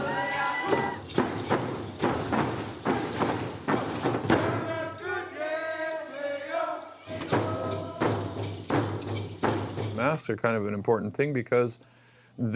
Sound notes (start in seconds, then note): 0.6 feet stomping